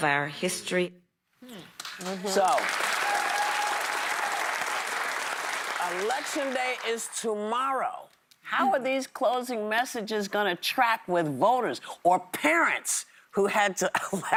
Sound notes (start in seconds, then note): 5.3 applause